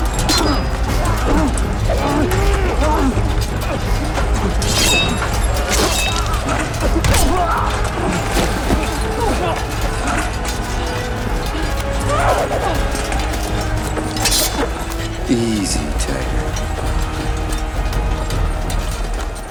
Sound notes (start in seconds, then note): 5.3 blade slashes; 5.3 soldier 2 groans; 11.5 panting, grunts; 17.1 suspenseful music playing